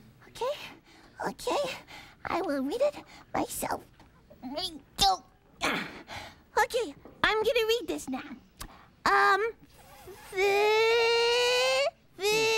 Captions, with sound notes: OKAY, OKAY, I WILL READ IT MYSELF. ( grunting ) OKAY, I GOING TO READ THIS NOW. UM, "FIH"... "FIH"...